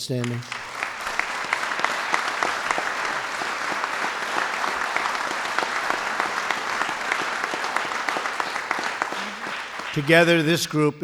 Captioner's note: applause